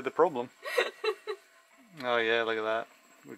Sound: chuckles

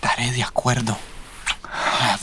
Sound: kiss

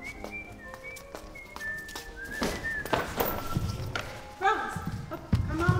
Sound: whistling

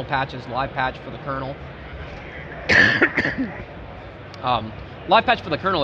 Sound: coughs

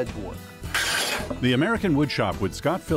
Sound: wood scraping

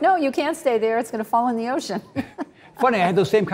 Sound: chuckles

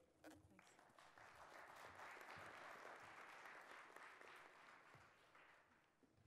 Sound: audience applauds

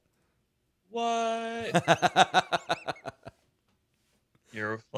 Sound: laughing

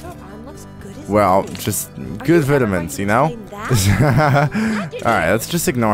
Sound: laughs

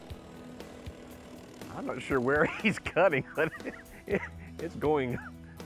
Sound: laughs

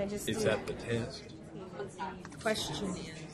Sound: voiceover

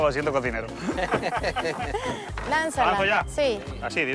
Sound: laugh

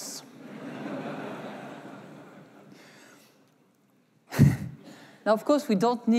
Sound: laughter

